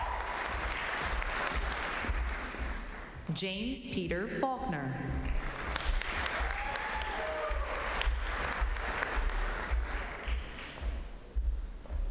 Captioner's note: cheers and applause